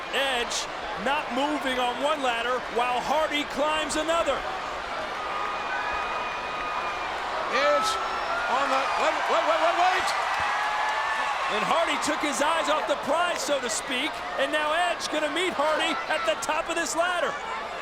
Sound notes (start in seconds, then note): 5.0 audience chattering; 10.3 audience cheering